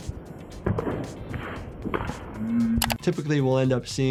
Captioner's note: bone cracking